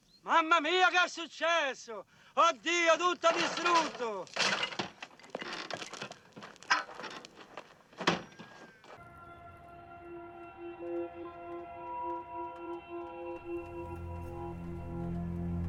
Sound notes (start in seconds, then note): 7.9 thud